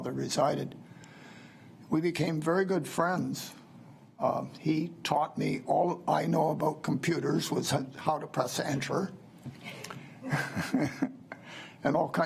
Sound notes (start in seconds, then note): 10.2 laughs